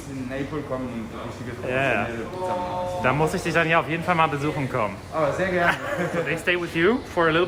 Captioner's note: speaking in foreign language